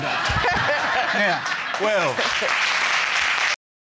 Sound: crowd laughing and cheering

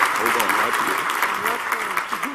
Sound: applause

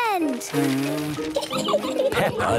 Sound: blows

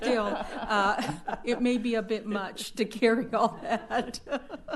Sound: laughter

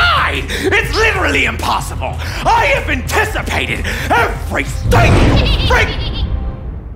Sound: whoosh offstage

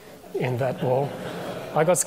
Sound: audience laughing

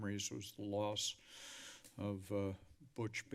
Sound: sighs

